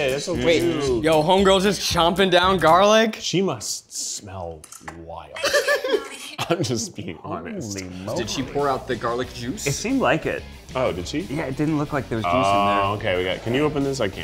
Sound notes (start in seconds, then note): 5.4 laughing